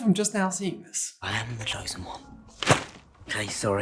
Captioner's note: thwap!